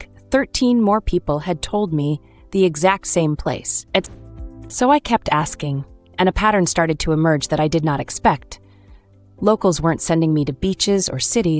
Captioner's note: thoughtful